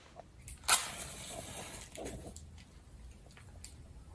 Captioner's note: quick scratching